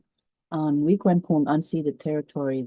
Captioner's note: speaks in Cree